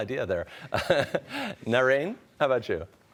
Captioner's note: laughs